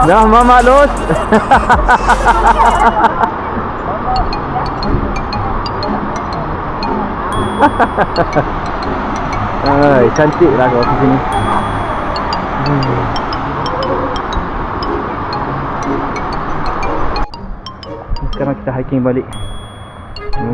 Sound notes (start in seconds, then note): 0.1 laugh; 0.1 speaking German; 7.8 laugh